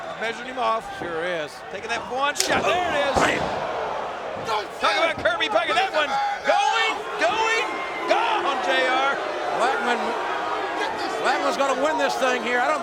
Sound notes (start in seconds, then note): 2.4 kendo stick whacks; 8.8 crowd boos